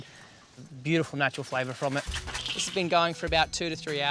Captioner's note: coals fall